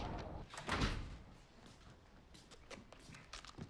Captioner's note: door closes